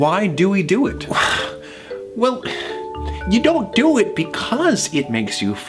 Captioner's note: sighs